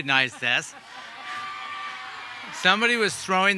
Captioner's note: audience cheering